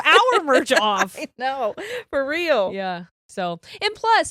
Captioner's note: giggles